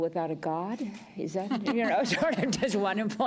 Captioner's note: laughter